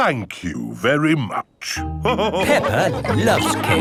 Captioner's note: all laughing